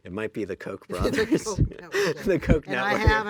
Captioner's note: laughs